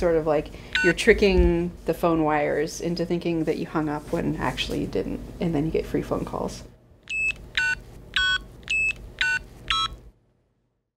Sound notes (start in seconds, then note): 7.8 phone keys beeping